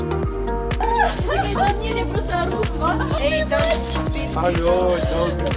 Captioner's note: girl laughing; girl speaking faintly; speaking faintly